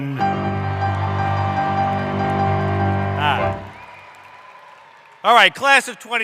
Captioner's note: cheering